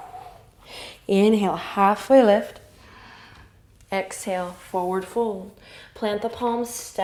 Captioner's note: exhale; inhale